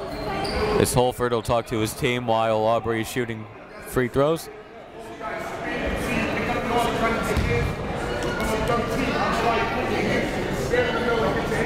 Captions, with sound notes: Guess Holford will talk to his team while Aubrey's shooting free throws. (crowd talking) (coaches talking)